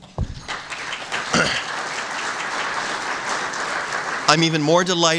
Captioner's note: applause